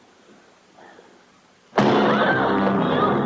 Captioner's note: screaming